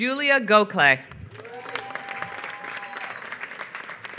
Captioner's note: applause